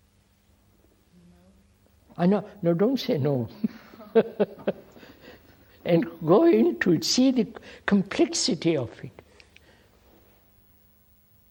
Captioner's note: laughs